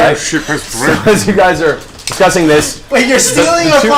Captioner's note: laughs